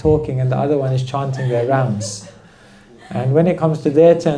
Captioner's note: laughter